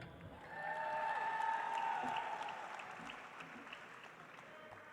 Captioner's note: audience applauds